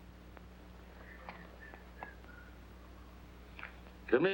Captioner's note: whistles under breath